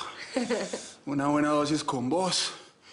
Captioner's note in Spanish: Risas